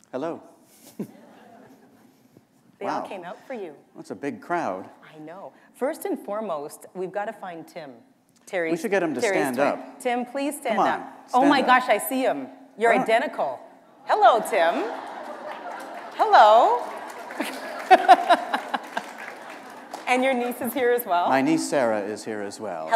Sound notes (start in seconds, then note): 18.6 laughter